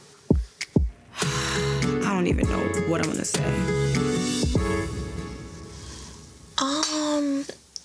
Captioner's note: sighs quickly